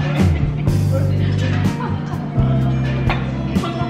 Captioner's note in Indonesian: menahan ketawa